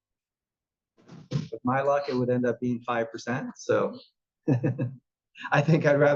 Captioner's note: laugh